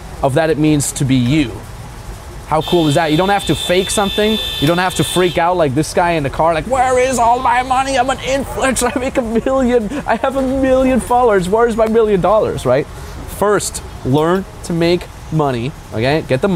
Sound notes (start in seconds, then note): 2.5 car horn blaring; 8.2 chuckles